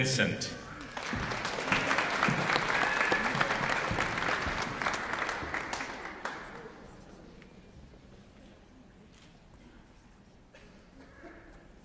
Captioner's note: applause